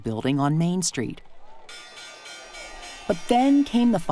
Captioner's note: stock market bell rings